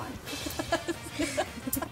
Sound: laughing

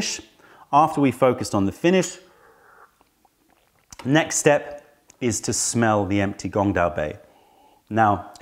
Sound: sips tea; sips tea

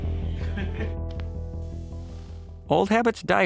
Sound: laughing

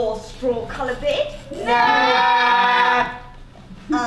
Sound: disagreeing noises

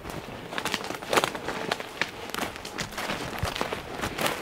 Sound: leave rustling

